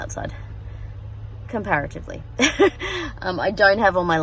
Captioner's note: chuckles